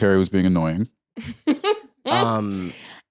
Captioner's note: laughs